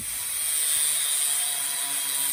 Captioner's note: cutting noise